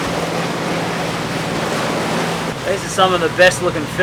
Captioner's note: boat engine running